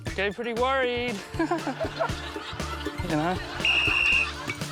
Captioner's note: laughs; whistle blows